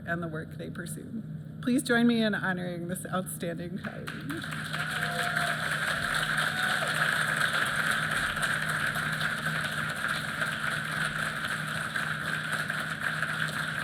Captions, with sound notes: and the work they pursue. Please join me in honoring this outstanding coverage. [APPLAUSE]